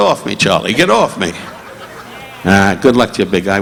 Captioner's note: audience laughing